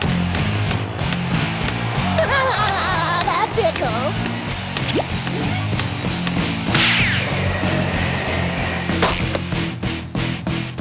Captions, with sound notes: [laughs] That tickles.